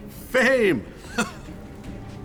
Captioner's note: chuckles